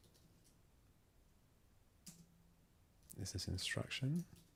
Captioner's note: silence